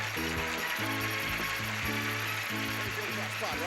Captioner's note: audience applauding